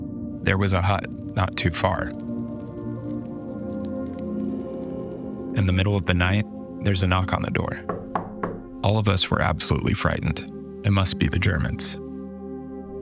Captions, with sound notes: There was a hut, not too far. (fire crackling) In the middle of the night there's a knock on the door. (knocking on door) All of us were absolutely frightened, it must be the Germans.